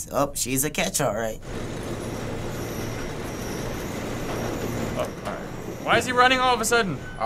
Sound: door opening

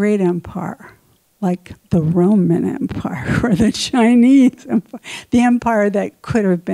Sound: laughs

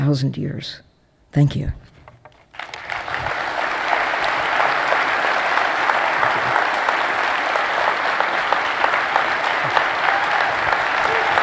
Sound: applause

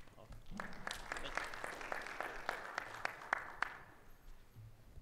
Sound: audience applauds

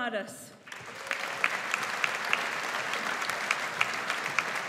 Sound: audience applauds

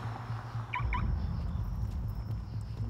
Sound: car alarm chirps

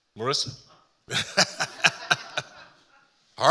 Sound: laughing

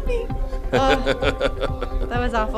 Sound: laughing

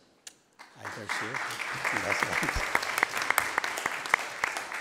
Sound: attendees applauding; mumbles

